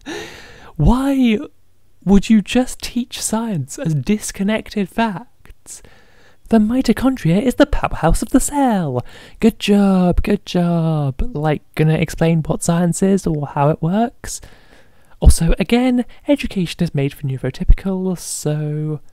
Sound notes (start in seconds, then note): 0.0 laughing; 8.9 sarcastically